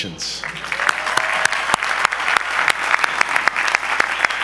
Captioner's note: audience applause